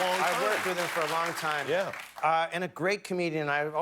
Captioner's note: applause